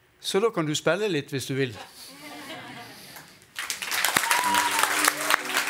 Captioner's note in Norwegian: Applaus